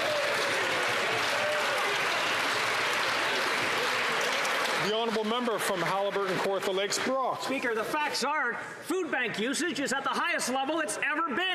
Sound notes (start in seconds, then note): 7.3 some Applause